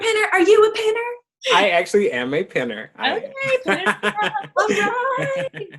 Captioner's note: laughs